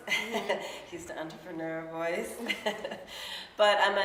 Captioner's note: laughs